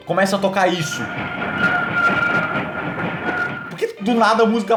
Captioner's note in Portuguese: som bizarro de trem caindo